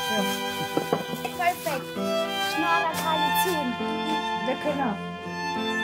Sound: in Armenian

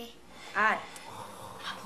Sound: Erpak snores

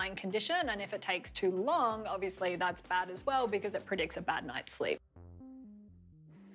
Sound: none

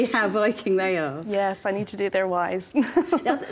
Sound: laughs

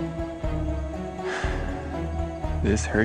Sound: exhales sharply

